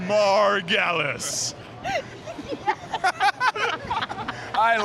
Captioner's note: laughter